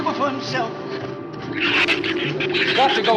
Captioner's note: shrews chatter